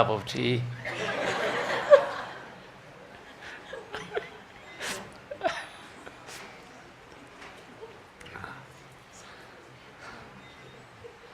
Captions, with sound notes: Better to have a cup of tea. (laughter)